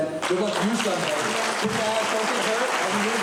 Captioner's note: applause